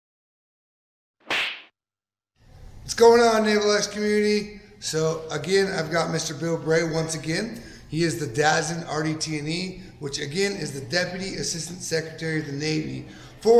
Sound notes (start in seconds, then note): 1.2 whip slapping